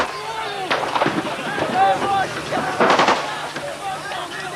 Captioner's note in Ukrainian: оплески